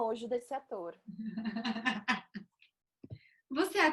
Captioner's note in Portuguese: risos